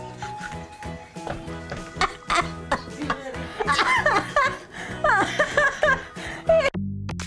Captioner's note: laughing; upbeat dance music